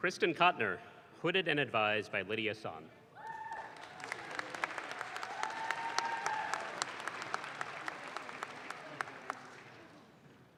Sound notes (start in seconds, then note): 3.4 audience claps